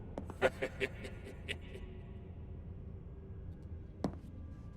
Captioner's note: leprechaun laughing